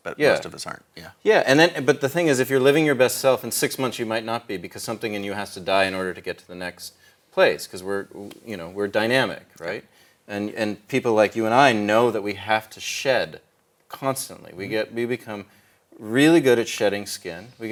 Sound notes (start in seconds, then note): none